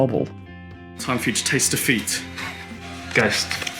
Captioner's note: chuckles